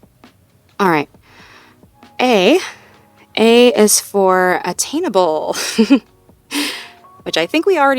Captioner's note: chuckles